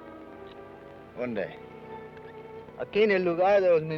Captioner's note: Ben speaks foreign language